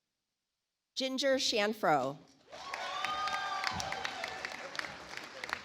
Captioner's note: audience applauds